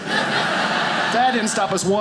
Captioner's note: audience laughing